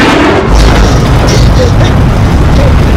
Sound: gasping

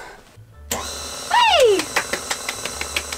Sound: blender noise

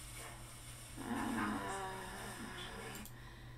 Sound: Natalie groans

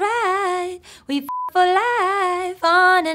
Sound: beep

